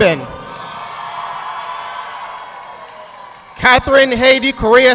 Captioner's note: audience clapping